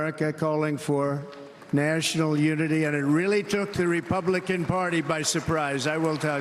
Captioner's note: cheers and applause